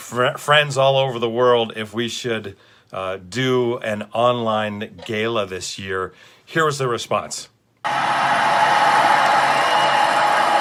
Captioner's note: cheers from audience